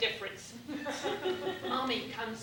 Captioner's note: laughter